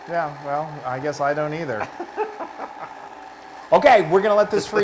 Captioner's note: laugh